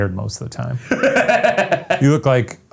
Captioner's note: Ryan laughs